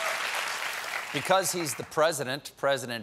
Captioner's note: applause